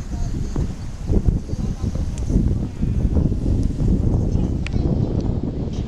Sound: the waves in the background

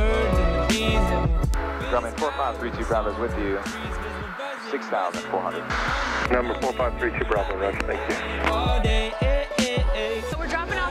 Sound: radio Communication

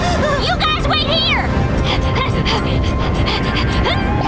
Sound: panting; grunting

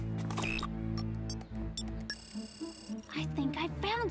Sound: beeping

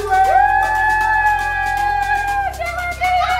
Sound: cheers

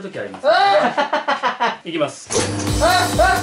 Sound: demonically

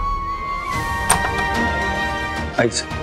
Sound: door opens

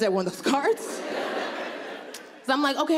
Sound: audience laughing

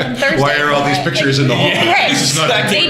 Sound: laughter

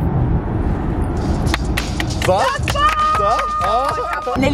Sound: clapping

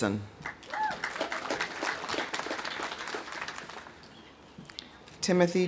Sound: audience applauding; audience whooping

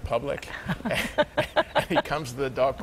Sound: both laugh

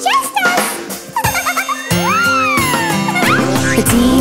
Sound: giggling

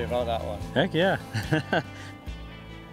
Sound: laughs

